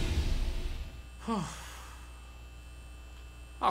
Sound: sighing in relief

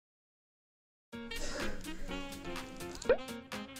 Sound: munching on bread

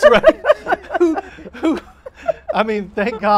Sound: laughing

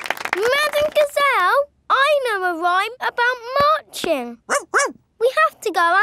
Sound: laughing and clapping; barks

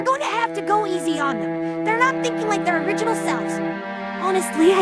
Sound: none

